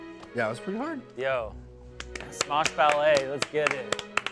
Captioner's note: applaud